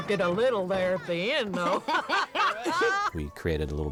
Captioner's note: laughing